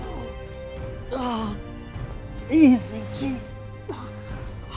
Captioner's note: groaning